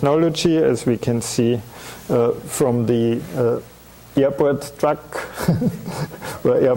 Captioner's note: chuckling